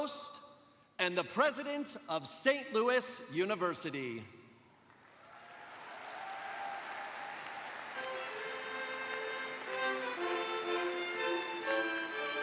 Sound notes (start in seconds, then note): 1.3 cheers and applause